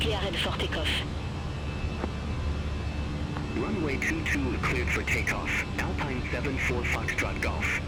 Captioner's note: radio chatter